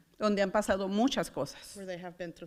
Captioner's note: foreign language